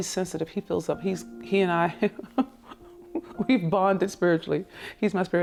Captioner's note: laughs